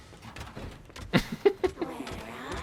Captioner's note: laughs